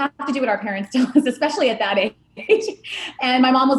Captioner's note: laughing